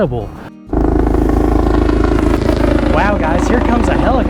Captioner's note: helicopter whirring